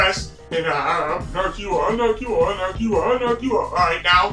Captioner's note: mumbling, imitates deep voice